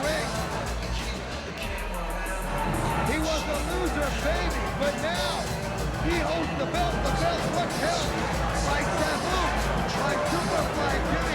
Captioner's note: crowd cheering